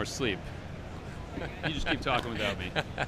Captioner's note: laughs